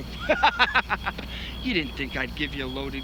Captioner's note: laughs